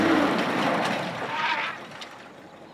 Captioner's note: engine revving